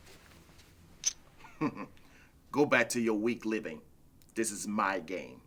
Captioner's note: chuckles